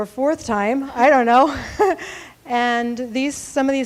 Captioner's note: laughing